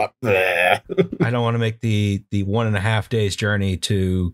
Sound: laughter

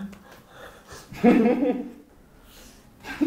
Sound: haha; lol

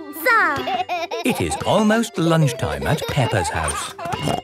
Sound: laughing

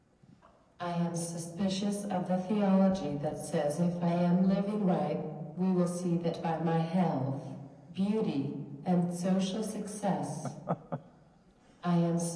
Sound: chuckles

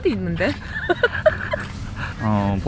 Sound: giggles

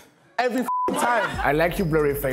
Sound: beep

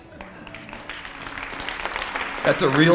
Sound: applause

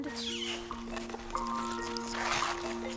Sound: animals squeaking, chittering

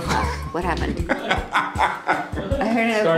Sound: Amenadiel laughing

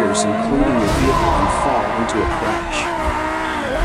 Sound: officer #2 screams; crash!

